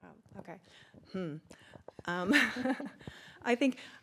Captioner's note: chuckles